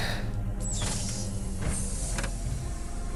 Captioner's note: pneumatic door opening